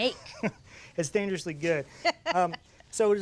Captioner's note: chuckles